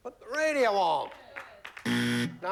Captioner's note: buzzer